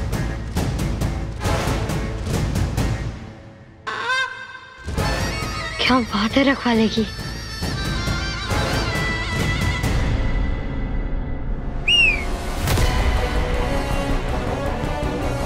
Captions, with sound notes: [eerie music playing] 'Saviour' is amazing. [whistling]